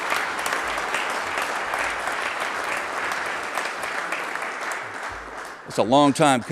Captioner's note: applause